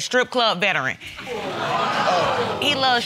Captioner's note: audience groaning